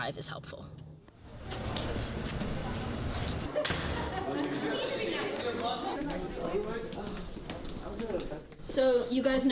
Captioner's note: indistinct chatter